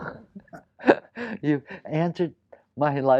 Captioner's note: laughs